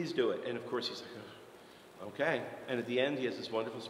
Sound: sighs

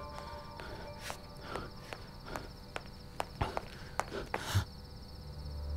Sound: footsteps

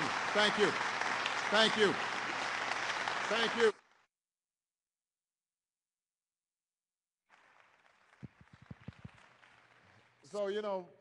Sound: applause; applause

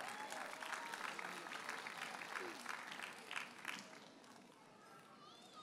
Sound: audience cheers and applauds

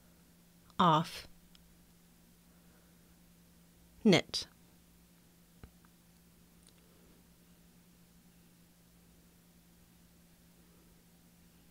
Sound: silence

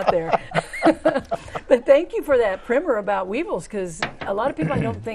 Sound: laughing

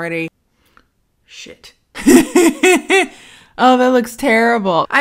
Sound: chuckles

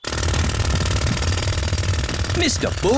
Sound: drilling

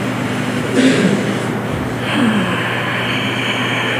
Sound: sigh

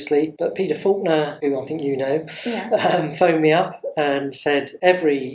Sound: laughs

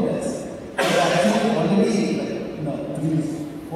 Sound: cough

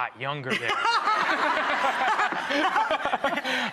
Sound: laughing

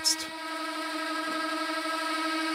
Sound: droning

